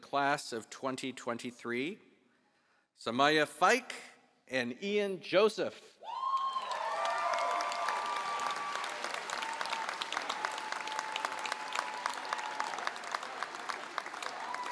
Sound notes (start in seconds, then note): 1.7 applause